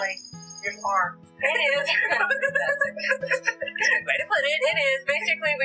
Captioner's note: laughter